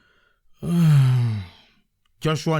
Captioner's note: sigh